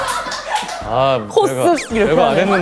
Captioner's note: hahaha